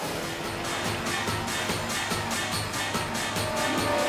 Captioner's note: cycle revving; edgy dramatic music; Rex splashing; intense dramatic music